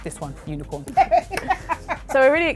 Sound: laughs

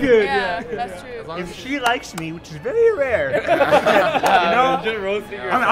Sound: laughs

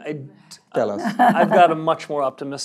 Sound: laugh

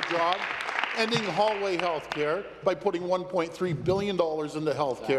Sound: applause

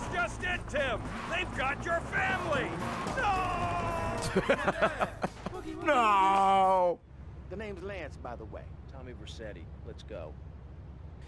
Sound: laughs

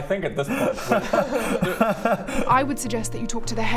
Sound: cries

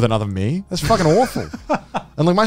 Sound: laughing

